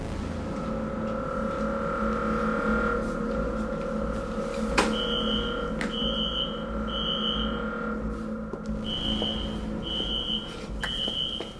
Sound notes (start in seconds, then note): 0.3 tense music; 5.6 alarm screeching